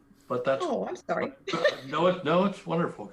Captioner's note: laugh